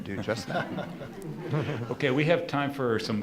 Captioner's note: laughing